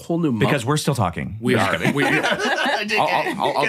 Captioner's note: group laughing